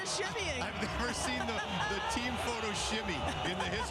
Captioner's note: laughter